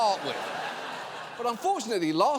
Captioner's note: audience laughing